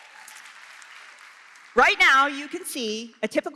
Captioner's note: applause